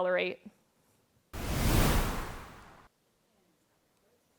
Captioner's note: screen whooshes